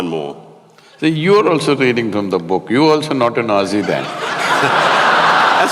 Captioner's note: laughter